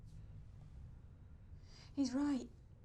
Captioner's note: none